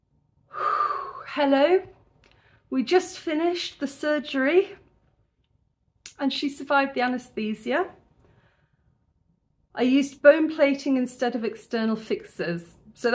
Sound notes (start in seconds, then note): 0.5 deep exhale